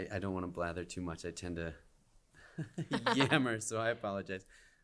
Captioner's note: laughter